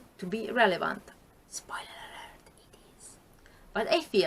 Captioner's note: whispers